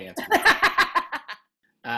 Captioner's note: laughs